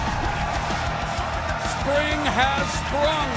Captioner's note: cheers and applause